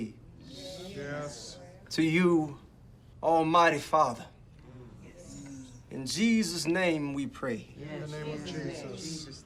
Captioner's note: crowd murmurs in agreement